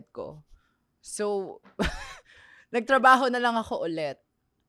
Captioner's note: laughs